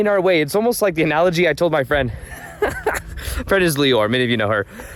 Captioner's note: laughs